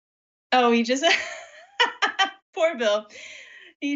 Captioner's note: laughs